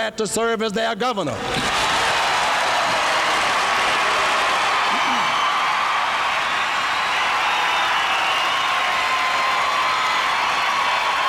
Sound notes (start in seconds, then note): 1.3 audience cheering; 1.4 audience applauding